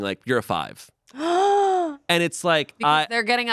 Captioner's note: gasps